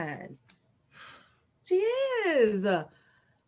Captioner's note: Bobo sighs